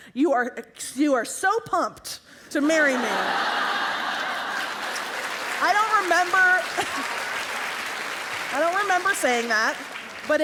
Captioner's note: laughter